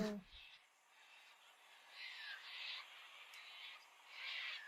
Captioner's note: birds chirping